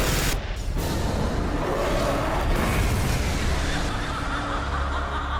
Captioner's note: guns banging; ground rumbles; monster roars; character laughing